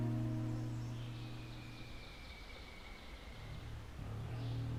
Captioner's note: birds chirp